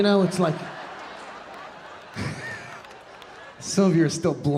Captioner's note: audience laughing